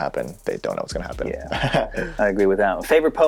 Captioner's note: laughing